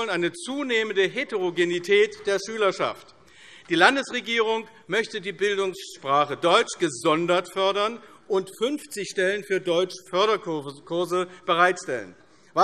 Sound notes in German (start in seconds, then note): none